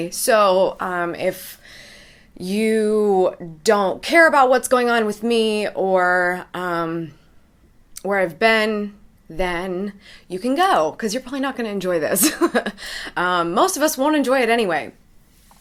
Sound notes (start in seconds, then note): 13.2 laughs